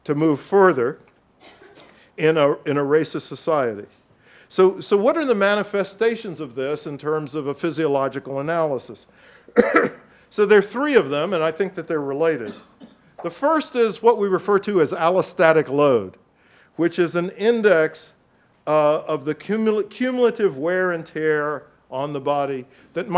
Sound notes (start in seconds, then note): 1.4 audience member coughs; 9.5 coughs; 12.4 audience member coughs